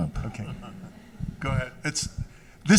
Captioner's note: laughs